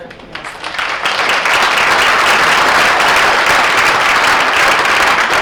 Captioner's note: audience applauds